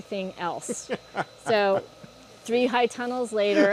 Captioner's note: laughter